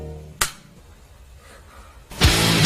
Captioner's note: trigger clicks